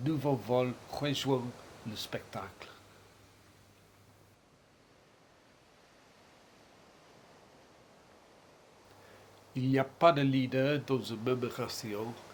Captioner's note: silence